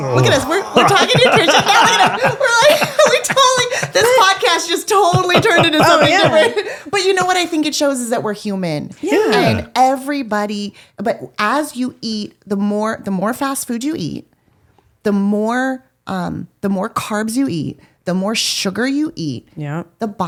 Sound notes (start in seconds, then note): 1.9 laughing